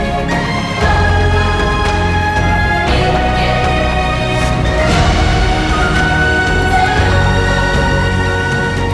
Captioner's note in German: glocke